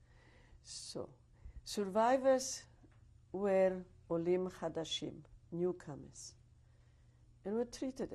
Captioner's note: hebrew